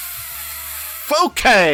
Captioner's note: annoyed noises